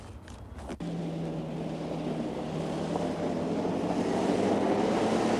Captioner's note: car engine revving